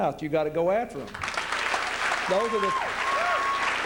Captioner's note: applause